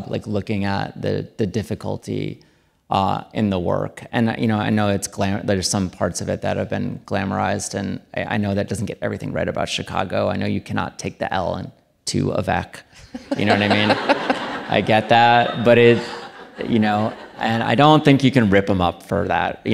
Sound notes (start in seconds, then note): 13.0 audience laughing